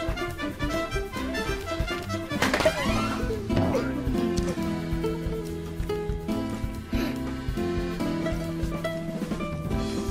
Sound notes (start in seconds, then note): 6.8 gasps